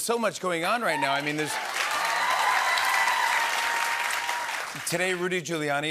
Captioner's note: cheers and applause